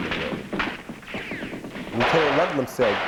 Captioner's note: gunshots fired